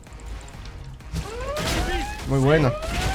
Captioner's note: sirens sounding